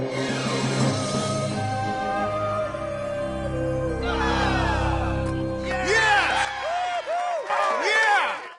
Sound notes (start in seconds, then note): 6.4 applause